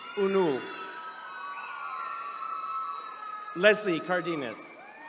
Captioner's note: attendees cheering